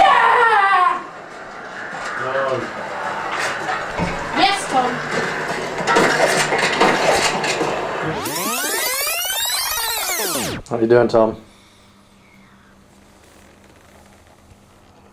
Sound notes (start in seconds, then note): 0.0 girl shouting; 8.0 tape fast-forward squeaking